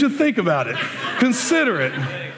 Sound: laughter

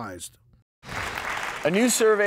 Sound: clapping

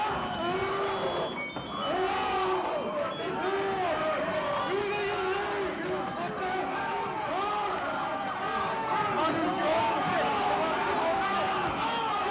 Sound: yelling

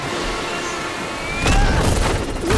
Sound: punching

